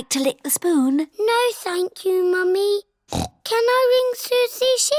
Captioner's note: snorts